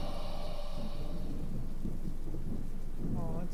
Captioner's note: ghostly wailing ends